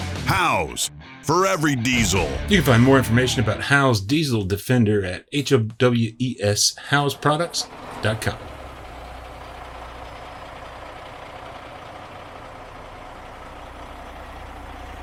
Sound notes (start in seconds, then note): 9.2 truck engine idling